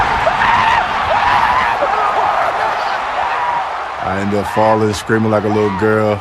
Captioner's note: shouting